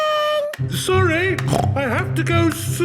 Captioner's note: snorts